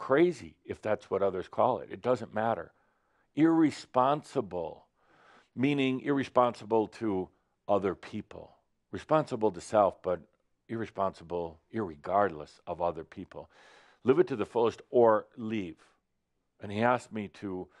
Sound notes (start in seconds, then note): none